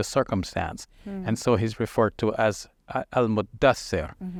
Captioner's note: speaking foreign language